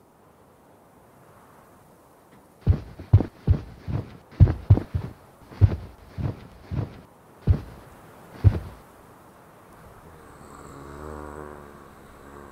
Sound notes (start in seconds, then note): 2.3 footsteps